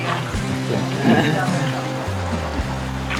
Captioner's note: hahaha